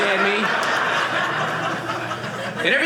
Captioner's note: audience laughing